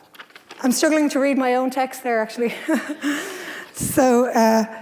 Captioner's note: laughs